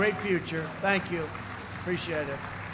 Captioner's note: applause